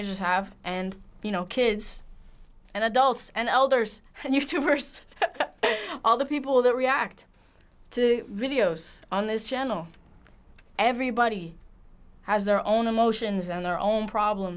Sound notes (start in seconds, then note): 5.0 laughing